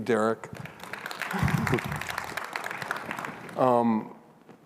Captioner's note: audience applauds